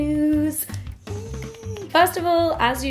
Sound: squeals

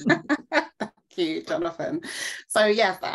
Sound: laughing

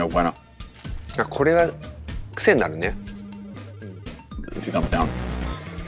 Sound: Takeru speaks Japanese; graphics clanking

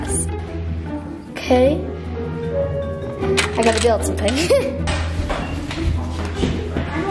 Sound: laughs

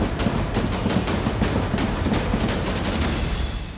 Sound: intense action music; wasp buzz

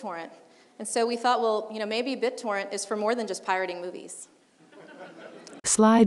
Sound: laughing

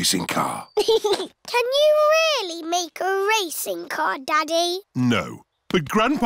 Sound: chuckles

